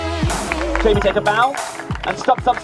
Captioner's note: crowd applauds